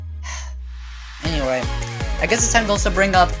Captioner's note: sigh